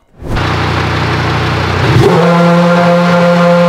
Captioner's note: engine Noise